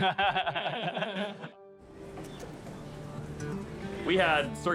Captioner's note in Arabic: كلاهما يضحك